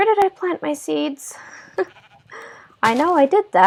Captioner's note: laugh